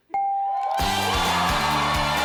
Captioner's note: bell dings; audience cheering